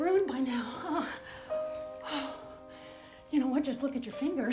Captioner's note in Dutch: zucht